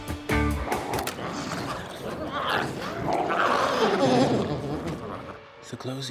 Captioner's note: glowzies growling